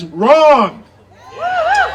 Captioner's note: audience cheering